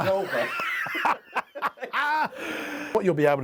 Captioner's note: laughing